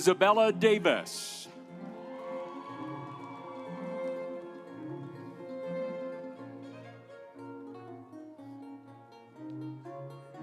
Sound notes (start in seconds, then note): 1.5 audience cheering; 2.3 instrumental music